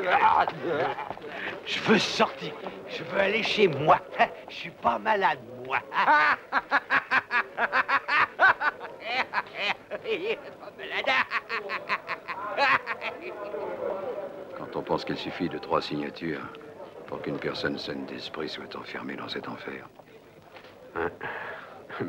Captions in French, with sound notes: Je veux sortir ! Je veux partir ! Je ne suis pas fou ! (RIRE) Trois signatures suffisent... ..et une personne sensée peut être enfermée dans cet enfer.